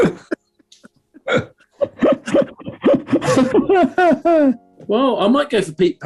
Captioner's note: quiet giggling; giggling intensifies